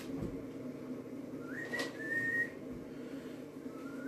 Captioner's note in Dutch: gefluit; nog meer gefluit